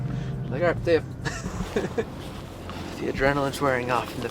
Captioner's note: giggling